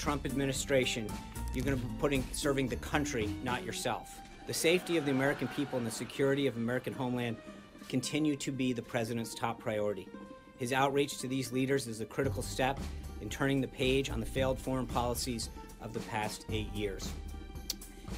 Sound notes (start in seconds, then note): 4.8 laugh track